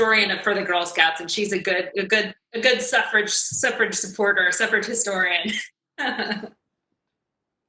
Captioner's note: laughs